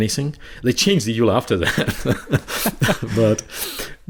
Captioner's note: chuckling